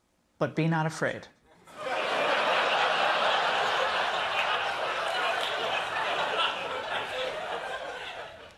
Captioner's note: laughter